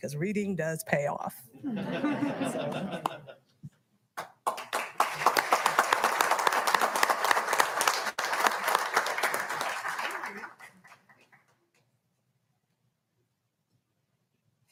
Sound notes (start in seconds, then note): 1.6 audience laughing; 4.2 audience applauding